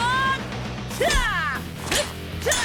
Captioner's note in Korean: 셉 기합 소리; 기합 소리